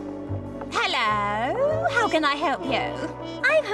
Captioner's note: British accent